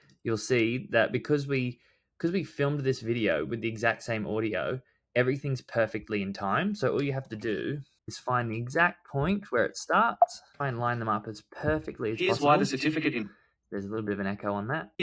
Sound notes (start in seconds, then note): 11.8 voiceover